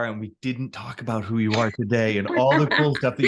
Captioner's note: laughs